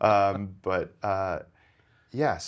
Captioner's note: laughing